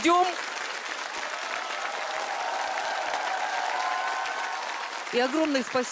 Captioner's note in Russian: аплодисменты